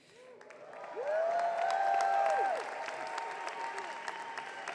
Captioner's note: audience cheering